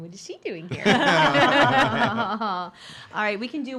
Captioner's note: laughing